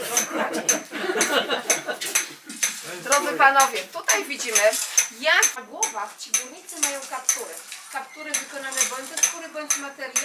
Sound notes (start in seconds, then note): 0.1 laughter; 3.3 woman speaking foreign language